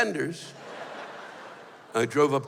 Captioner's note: laughter